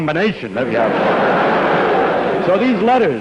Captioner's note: laughter